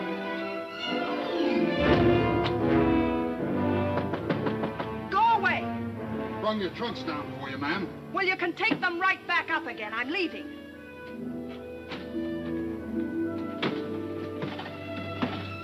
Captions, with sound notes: (knocking) - Go away! - Brung your trunks down for you, ma'am. - Well, you can take them right back up again, I'm leaving.